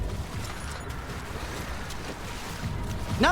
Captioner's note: snarls waterly